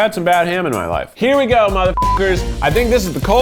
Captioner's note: beeps